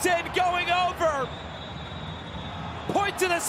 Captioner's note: whistle blows